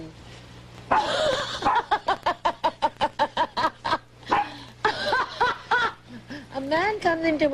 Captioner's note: laughing